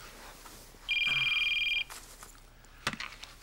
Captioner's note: phone ringing